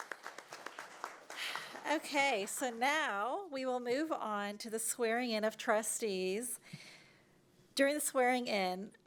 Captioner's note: applause